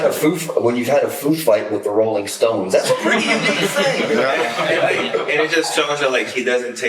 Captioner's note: laughter, chatter